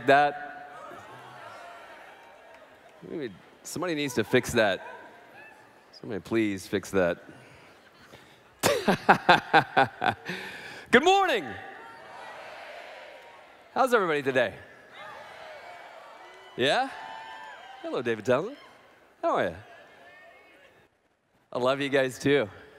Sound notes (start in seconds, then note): 8.6 laughs